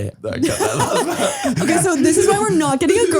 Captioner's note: both laughing